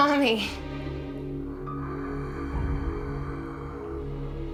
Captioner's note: heavy breathing